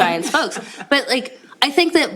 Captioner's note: laughter